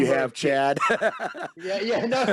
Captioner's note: chuckle